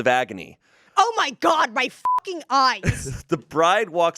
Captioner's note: beep